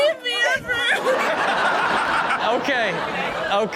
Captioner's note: all laugh